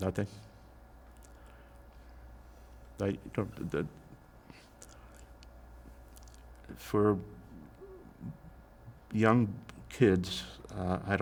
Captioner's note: pauses 6 seconds